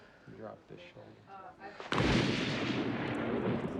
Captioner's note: clap ofthunder